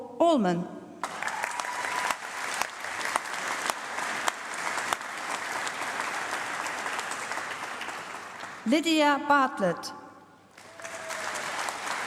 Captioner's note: applause; applause